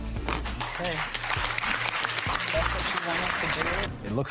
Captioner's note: applause